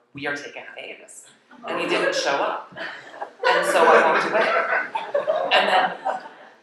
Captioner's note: laughter